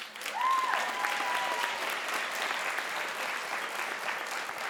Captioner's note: crowd applauds